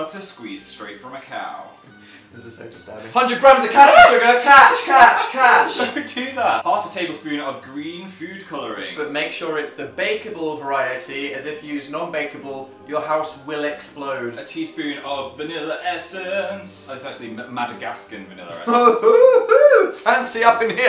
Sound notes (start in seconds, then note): 2.0 chuckles; 4.1 yelps; 4.9 laughs